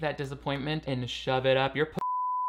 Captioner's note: beep